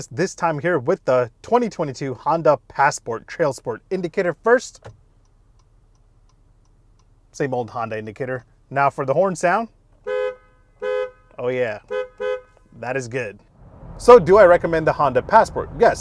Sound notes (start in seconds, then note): 4.9 indictor ticking rhythmically; 10.1 horn beeping repeatedly